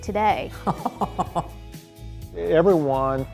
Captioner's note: chuckling